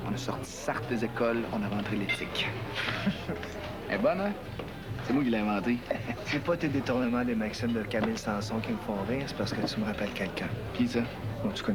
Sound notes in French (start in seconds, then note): 2.8 Rire